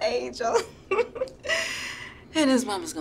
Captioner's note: chuckles